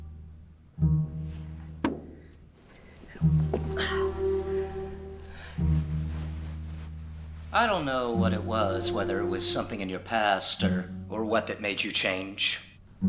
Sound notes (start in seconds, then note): 1.8 bottle rests